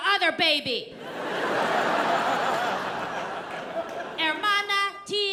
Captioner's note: audience laughs